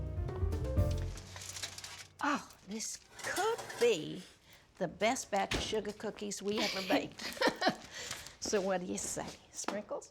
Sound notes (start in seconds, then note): 6.6 chuckles